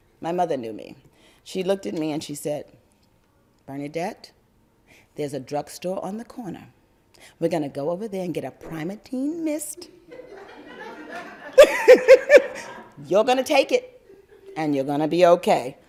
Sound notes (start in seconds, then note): 9.9 audience and speaker laugther